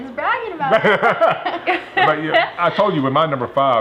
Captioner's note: laughter